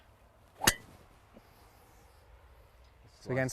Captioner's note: club thwacks